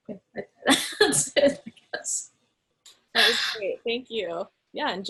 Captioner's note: laughs